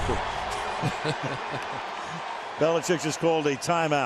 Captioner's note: laughing